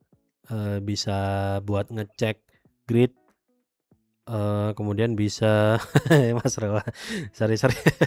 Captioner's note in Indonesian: tertawa